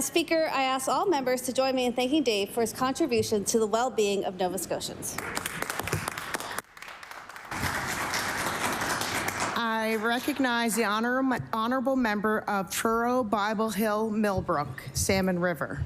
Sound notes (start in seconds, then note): 10.0 applause